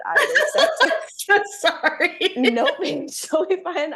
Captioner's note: laughs